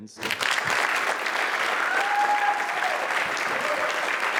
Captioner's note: applause